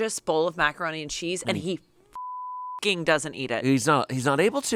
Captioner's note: beep